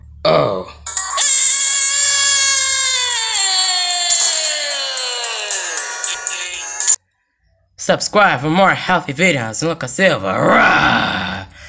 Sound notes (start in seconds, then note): 3.8 screaming in anger